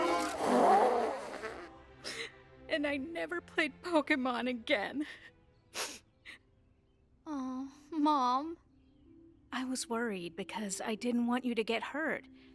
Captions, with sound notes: [loudly blows her nose] And I never played Pokémon again. [sniffs] Aw, Mom. I was worried because I didn't want you to get hurt.